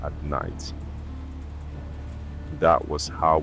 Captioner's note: road noise & faint train sound effect